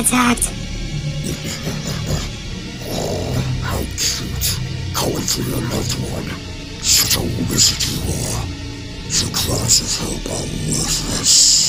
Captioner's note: chuckles